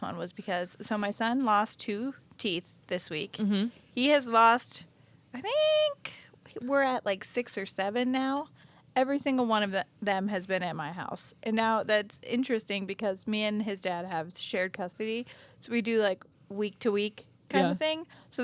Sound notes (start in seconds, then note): none